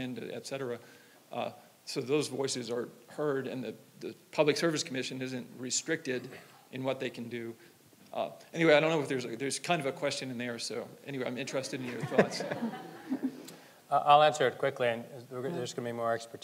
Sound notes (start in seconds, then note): 11.8 audience laughing